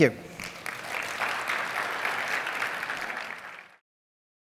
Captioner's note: applause